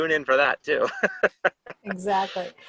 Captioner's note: laughter